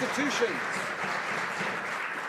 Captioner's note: some Applause